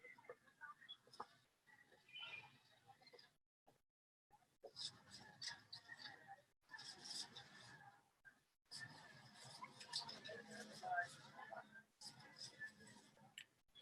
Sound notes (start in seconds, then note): 3.3 soundscape: whispering, sibilance